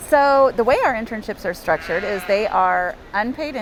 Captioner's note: bleats